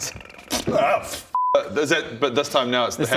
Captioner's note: pff